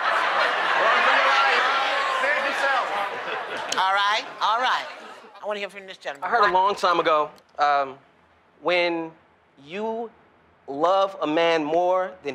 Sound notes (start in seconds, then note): 2.8 laughter